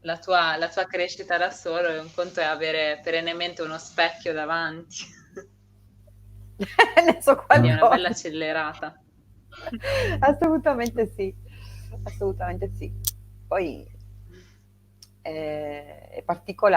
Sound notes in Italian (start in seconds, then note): 6.6 risate; 7.5 suono gutturale